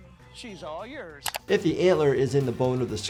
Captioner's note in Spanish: clic del mouse